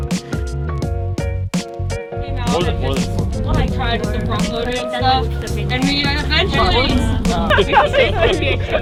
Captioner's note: group chattering